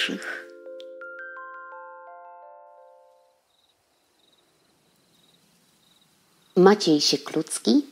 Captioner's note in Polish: cykanie świerszczy